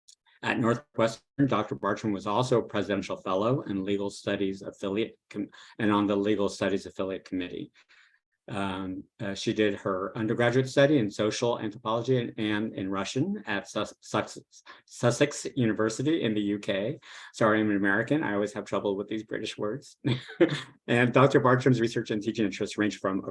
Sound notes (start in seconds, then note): 20.0 laughs